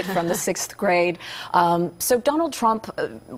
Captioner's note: laughter